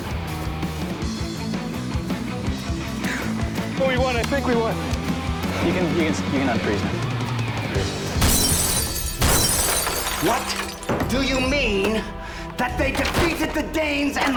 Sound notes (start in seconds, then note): 8.1 glass Smashing